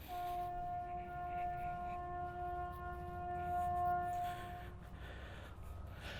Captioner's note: horn in distance